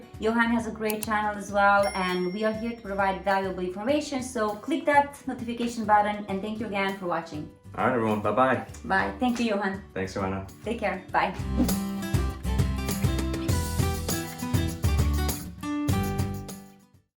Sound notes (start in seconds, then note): 11.0 gentle guitar music; 11.5 air whooshing